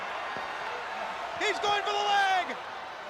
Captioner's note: crowd chatter